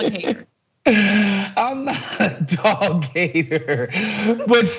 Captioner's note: laugh